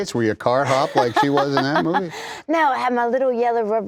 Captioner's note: laughter